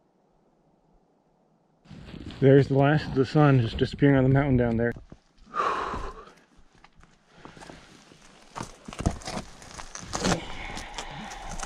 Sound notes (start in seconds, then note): 5.5 sighs